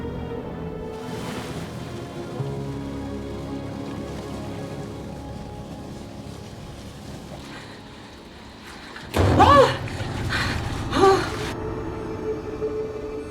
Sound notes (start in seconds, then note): 9.1 thump